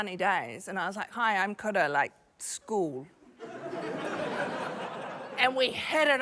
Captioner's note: laughter